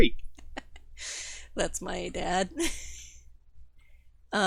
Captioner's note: chuckles